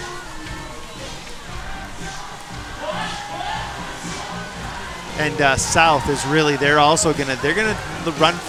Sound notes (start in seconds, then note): 5.3 crowd chattering